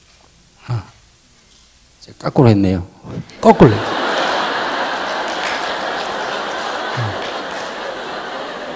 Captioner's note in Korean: 청중 박장대소